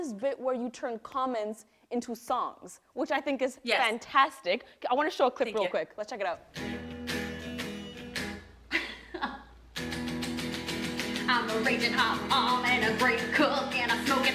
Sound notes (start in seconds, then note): 7.5 rock music; 8.7 laughs